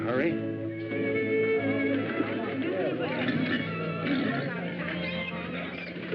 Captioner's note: chatter